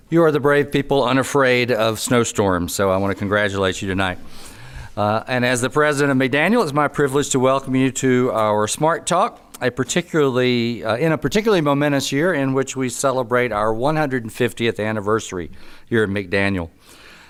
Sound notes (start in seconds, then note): none